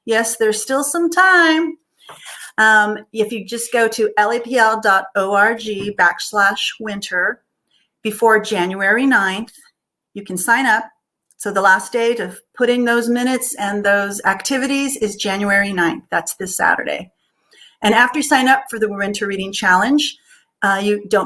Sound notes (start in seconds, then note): none